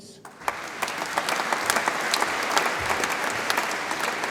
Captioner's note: audience applauds